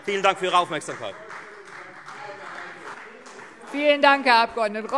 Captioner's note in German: Beifall Freie Demokraten